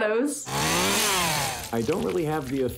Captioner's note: chainsaw sound